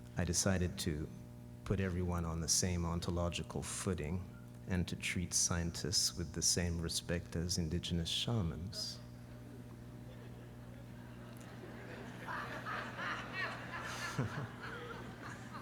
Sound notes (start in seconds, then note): 9.4 audience reacts